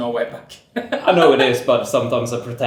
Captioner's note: laughs